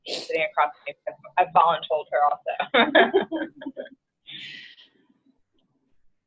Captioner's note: laughs